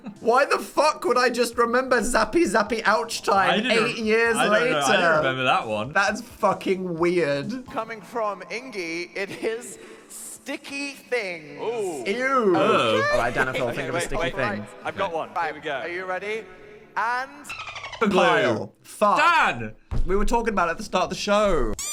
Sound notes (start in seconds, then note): 0.0 laughing; 12.4 exclaiming; 17.5 dolphin squealing; 21.8 squeaker squeaking